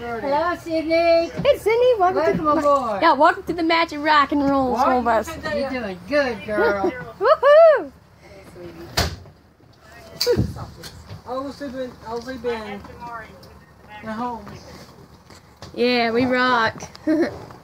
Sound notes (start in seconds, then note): 6.6 laughing; 8.8 window shuts; 16.8 giggling